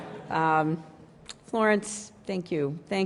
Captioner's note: laughter